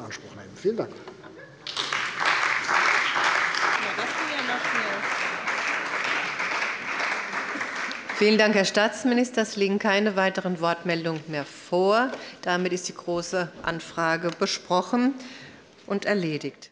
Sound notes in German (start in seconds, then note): 1.6 Beifall bei der CDU und dem BÜNDNIS 90/DIE GRÜNEN